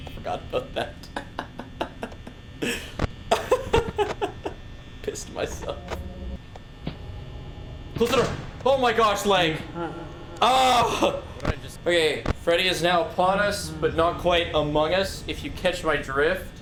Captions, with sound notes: Forgot about that. (Laughs) Pissed myself. Close the door. Oh my gosh, lag. Ahh! Okay, Freddy is now upon us but not quite among us if you catch my drift.